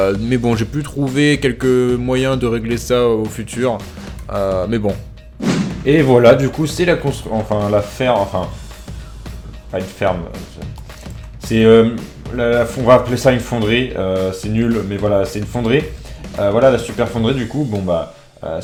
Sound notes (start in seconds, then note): 13.8 in french